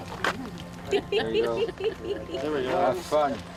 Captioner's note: members chuckling